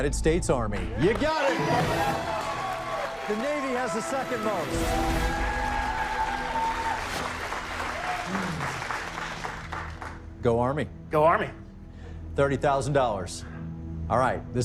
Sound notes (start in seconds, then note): 1.0 cheers and applause